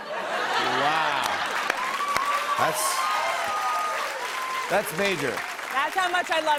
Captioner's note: cheers and applause